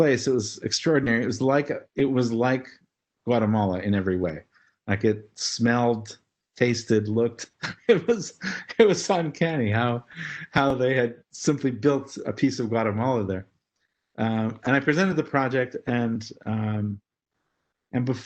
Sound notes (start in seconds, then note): 6.3 laugh